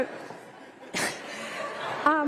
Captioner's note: laughter